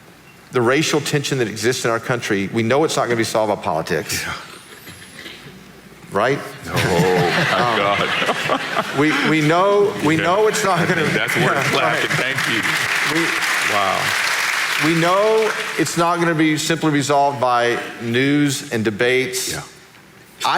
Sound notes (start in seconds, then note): 6.7 audience laughing; 13.4 audience clapping